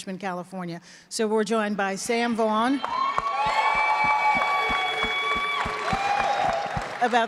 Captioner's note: audience claps and cheers